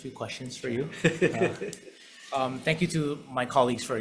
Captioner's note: laughs